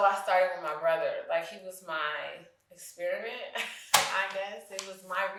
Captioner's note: chuckles